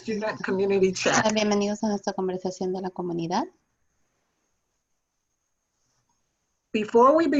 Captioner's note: speaking in foreign language